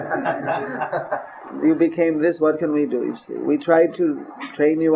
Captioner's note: laughs